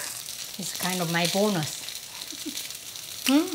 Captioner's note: laughs